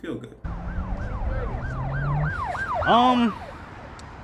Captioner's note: police sirens playing